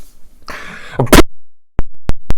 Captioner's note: mic cuts out